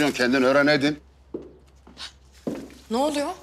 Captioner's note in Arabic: خطوات